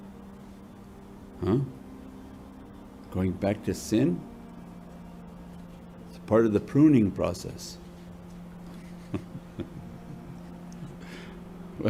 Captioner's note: laughter